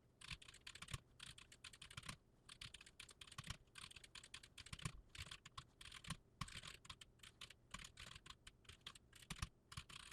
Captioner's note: typing sounds